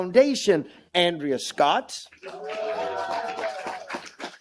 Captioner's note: applause